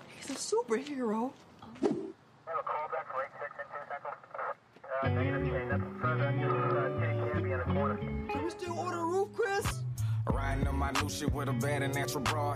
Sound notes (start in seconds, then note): 2.4 police radio crackling; 5.0 smooth hip hop